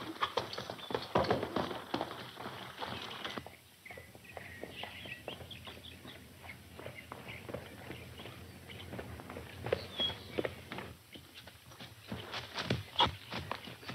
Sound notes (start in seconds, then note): 3.6 birds chirping; 3.6 hooves clopping